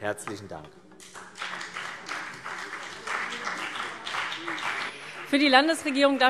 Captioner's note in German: Beifall CDU und BÜNDNIS 90/DIE GRÜNEN